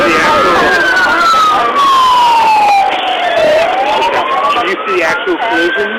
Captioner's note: sirens